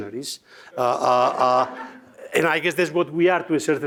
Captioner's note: attendees laughs